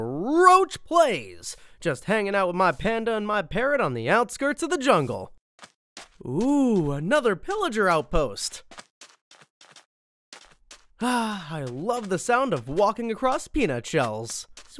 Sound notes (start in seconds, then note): 8.8 footsteps